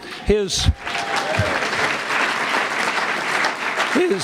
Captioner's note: applause